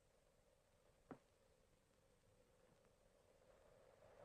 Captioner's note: wind howls